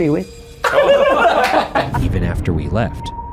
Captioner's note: all laughs